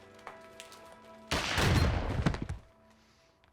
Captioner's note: gunshot